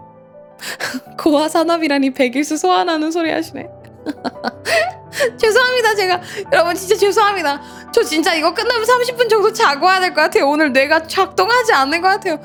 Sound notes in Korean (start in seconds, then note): 4.0 웃음; 6.2 헉 소리